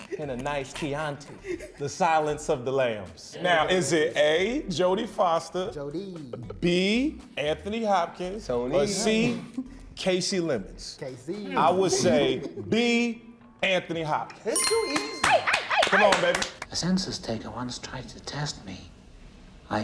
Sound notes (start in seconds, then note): 14.8 cast applauding and cheering